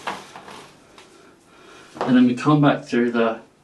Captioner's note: rope rustling; person breathing